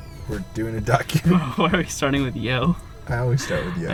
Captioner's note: voiceover